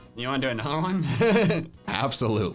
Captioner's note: laughs